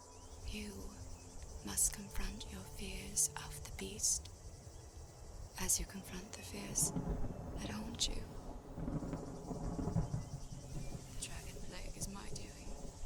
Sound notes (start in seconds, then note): 8.3 thunder